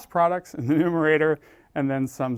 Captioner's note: laugh